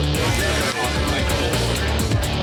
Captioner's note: chatter